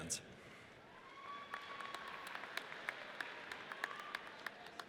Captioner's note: audience cheers